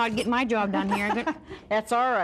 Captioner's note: laughing